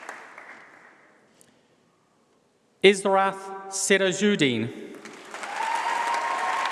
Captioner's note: applause